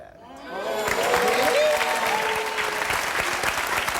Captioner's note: applause